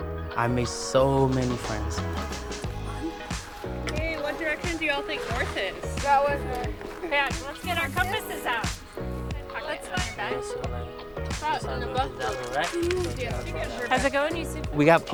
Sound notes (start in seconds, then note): 2.5 upbeat music; 9.2 group chattering